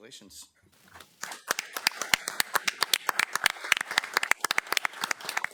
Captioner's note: attendees clapping